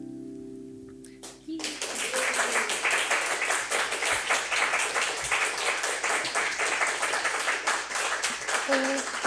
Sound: audience clapping

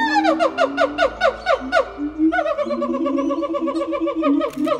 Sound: gibbons howling

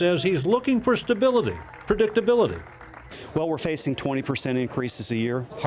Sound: applause

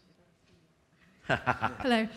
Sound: laughing

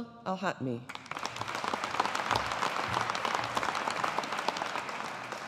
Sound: audience applauding

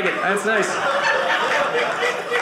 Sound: audience laughing

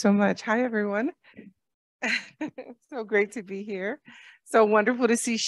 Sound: laughter

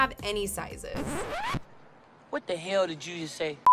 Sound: vinyl screech

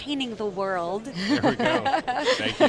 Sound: all laughing

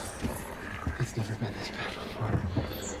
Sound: person whispering

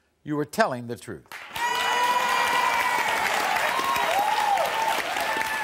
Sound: audience cheers

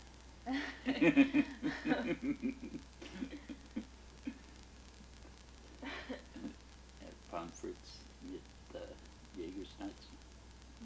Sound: both laugh

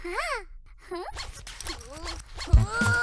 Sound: zip

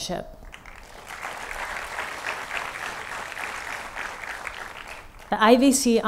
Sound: applause

